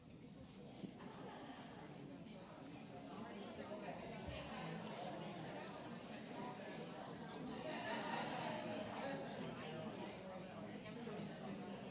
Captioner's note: classroom chatter